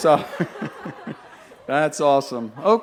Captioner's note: laughter